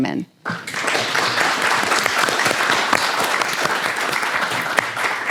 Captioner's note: audience applauding